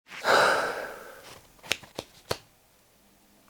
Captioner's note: sighs